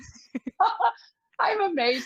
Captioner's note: laughs